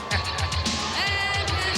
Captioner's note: laughs